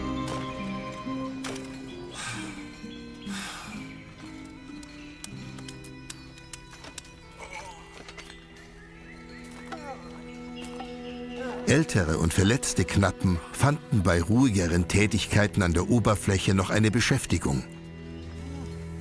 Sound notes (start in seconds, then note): 2.1 sighs